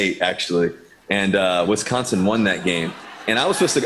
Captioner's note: laughter